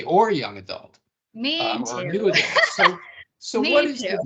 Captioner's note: laughing